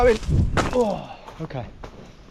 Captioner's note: grunts